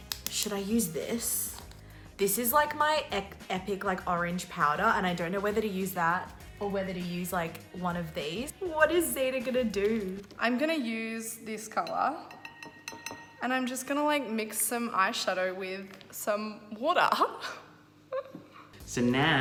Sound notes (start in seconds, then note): 12.2 glass tapping